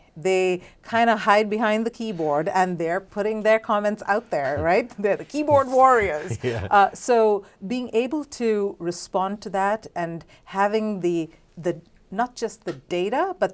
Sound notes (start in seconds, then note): 5.5 laughs; 5.8 both laugh